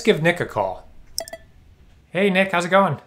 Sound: computer dinging

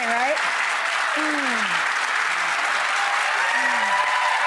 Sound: audience applauding

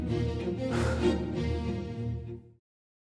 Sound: light sigh

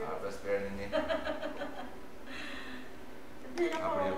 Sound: laughs

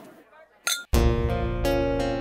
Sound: toasting

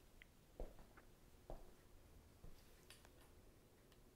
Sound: footstep stamping

